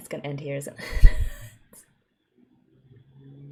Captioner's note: exasperated laugh